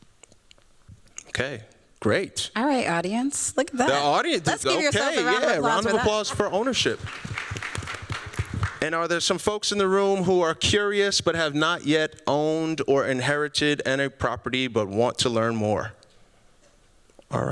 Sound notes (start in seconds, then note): 7.5 applause